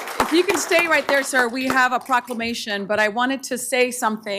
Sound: applause

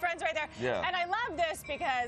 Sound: train a honking

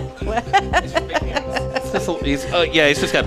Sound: laughing

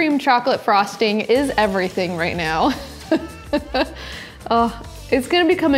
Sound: laughs

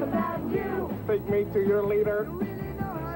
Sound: singing; mock alien voice

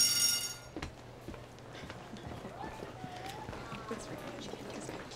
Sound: school bell rings; indistinct chatter

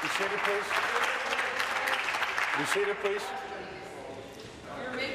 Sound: applause

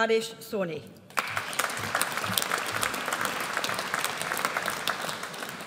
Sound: audience applauds

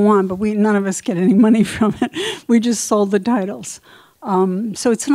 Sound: chuckles

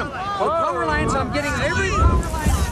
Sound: multiple person talking

